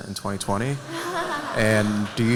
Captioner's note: laughter